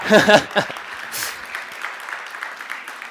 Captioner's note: laughs; audience claps